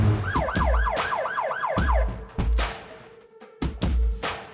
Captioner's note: sirens wailing; suspenseful music